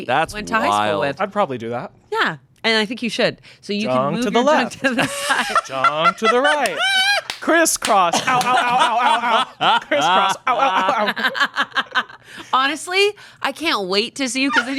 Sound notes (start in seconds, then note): 11.3 laughing